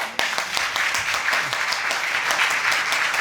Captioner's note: audience applauding